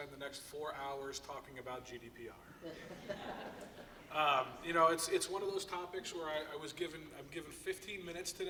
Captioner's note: laughter